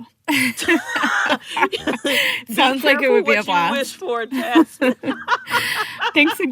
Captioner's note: laughter